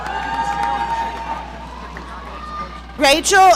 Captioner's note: audience cheering